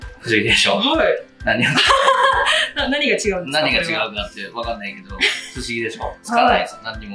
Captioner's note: laughs